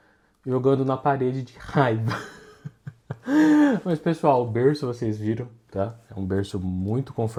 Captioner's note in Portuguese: risadas